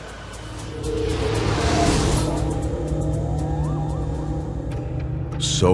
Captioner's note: whoosh